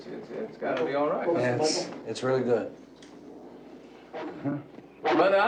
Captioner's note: snarling, barking